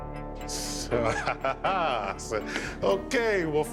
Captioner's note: laughs